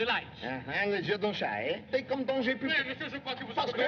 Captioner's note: both Arguing In French